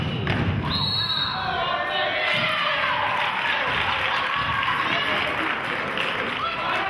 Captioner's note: whistle blows; clapping